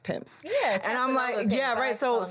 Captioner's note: speaks faintly